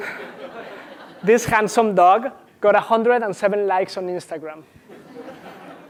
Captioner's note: laugh